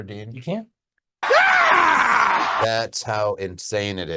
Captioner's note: screaming